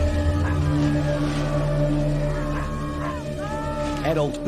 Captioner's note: man screaming